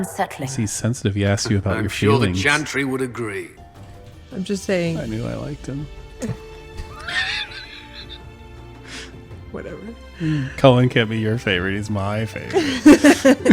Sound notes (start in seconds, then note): 6.9 laughs; 12.6 laughs